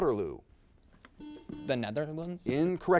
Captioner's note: buzzer beeps